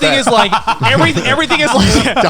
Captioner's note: burps